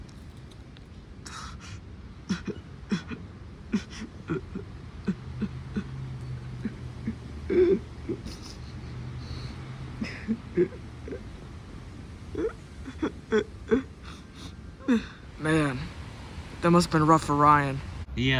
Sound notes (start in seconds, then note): 3.6 Ryan crying